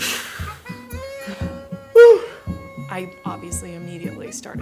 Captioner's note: phew, deep exhale sound